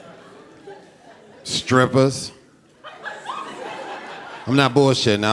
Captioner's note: audience laughing